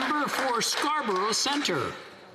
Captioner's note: some Applause